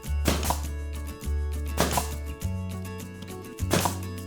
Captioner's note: nail gun popping